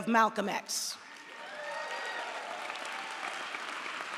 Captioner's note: audience applauds